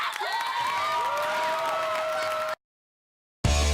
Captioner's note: applause